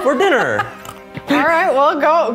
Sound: laughing

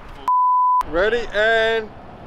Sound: beeps

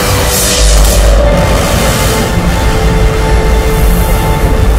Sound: electrical buzzing

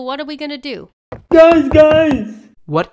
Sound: running footfalls

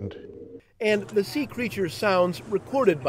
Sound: voiceover

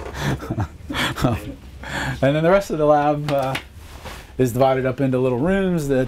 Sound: laughing

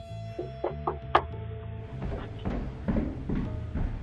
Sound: mysterious music; door knocking

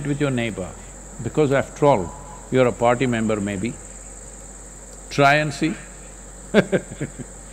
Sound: laughs

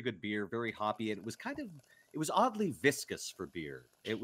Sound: liquid rippling

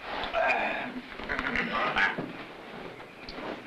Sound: groans

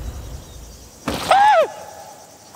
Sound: screams

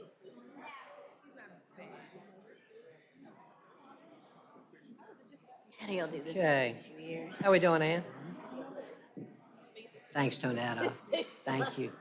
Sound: laughter

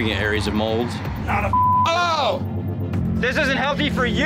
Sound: beep

